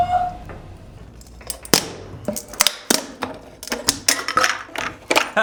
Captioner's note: plastic crunching